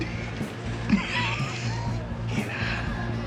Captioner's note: laughs